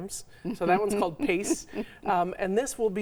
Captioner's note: chuckles